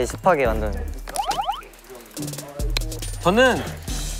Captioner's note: جلبة